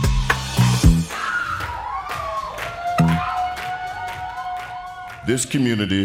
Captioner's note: cheering